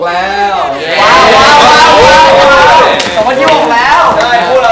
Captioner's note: excited cheering